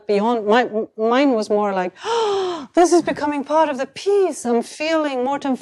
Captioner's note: gasps